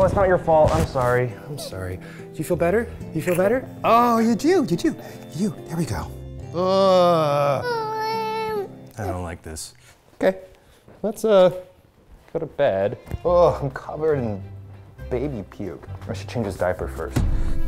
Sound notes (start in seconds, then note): 6.5 whimpers; 6.5 groans